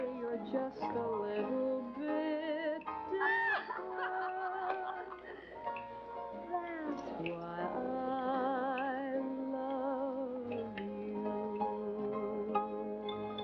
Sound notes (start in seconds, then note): 3.0 laughter in background